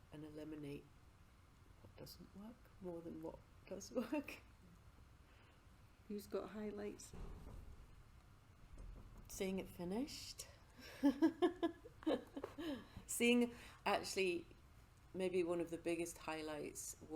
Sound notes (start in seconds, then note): 10.9 interviewee laughing